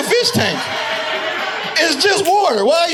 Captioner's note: audience laughing